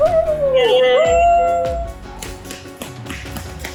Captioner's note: people cheering